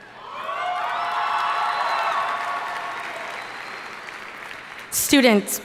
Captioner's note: audience cheering and applauding